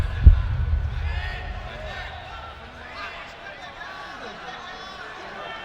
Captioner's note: clap